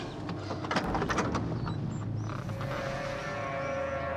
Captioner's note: car door creaks; suspenseful music plays